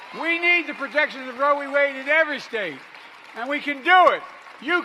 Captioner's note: applause